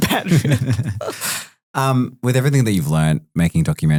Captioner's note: group laughing